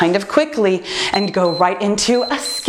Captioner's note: timer beeps